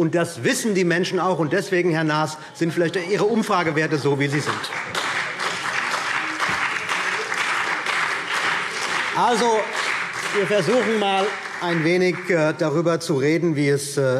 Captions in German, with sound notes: Das wissen die Menschen auch, und deswegen, Herr Naas, sind auch Ihre Umfragewerte so, wie sie sind. [Vereinzelter Beifall CDU und Beifall BÜNDNIS 90/DIE GRÜNEN] Wir versuchen einmal, ein wenig darüber zu reden,